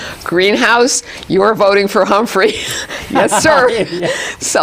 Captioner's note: laughs